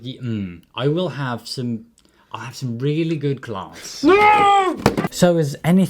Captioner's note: screams in anguish; thud